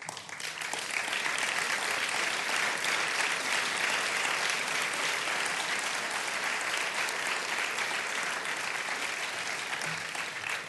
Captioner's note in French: Applaudissements